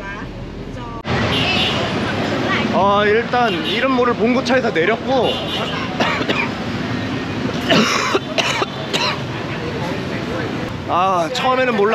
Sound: coughing

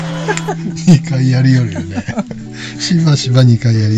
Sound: laughs

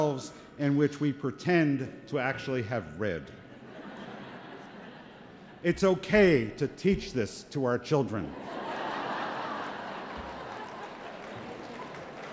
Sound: laughter

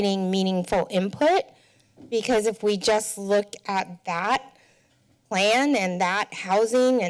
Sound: none

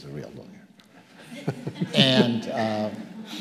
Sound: audience laughing

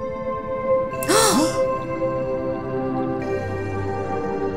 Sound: collective gasps

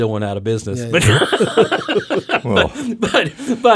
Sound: laughing

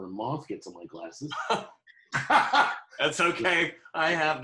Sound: laughing

